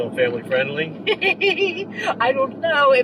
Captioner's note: laughing